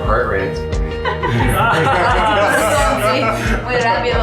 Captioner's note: laughter